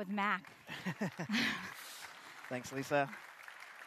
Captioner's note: applause